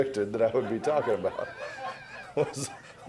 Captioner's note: laughter